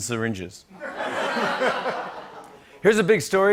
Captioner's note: laughter